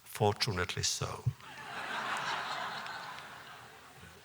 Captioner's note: laughter